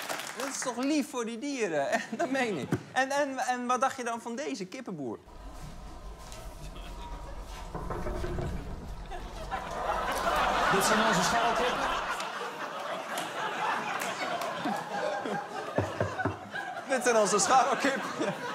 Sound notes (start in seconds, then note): 7.5 knocks